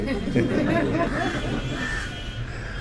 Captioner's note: laughter